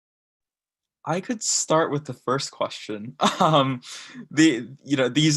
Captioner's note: laughs